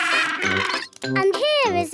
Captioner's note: honking